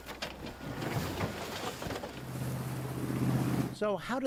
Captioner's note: fish thudding